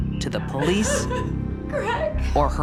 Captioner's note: crying